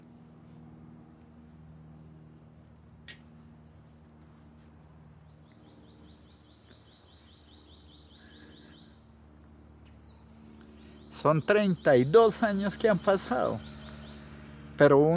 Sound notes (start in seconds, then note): 5.4 birds chirping; 11.1 speaking in foreign language